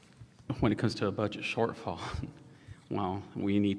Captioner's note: chuckles